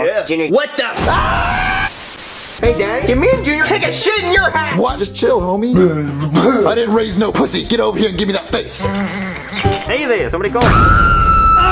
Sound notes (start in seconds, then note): 1.0 Junior screaming; 5.8 Jeffy blabbering; 8.8 slurping noise; 11.0 Rosalina screaming